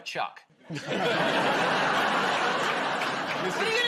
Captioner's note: laughter